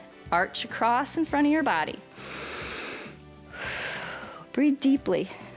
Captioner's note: inhales and exhales